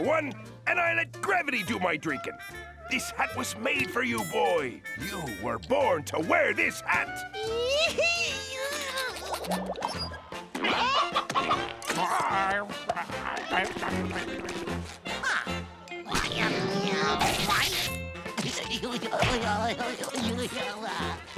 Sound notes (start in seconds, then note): 7.1 squealing; 11.1 clucking